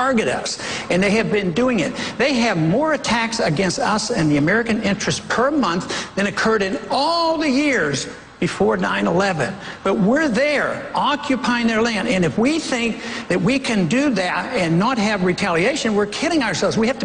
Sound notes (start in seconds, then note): none